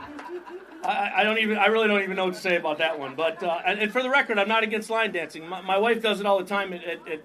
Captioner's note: laughter